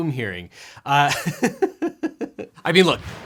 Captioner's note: laughs